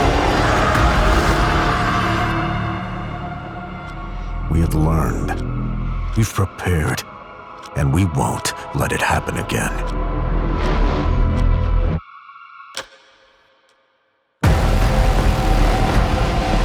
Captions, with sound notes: [screaming] We have learned. We've prepared. And we won't let it happen again. [echoing click] [music blares]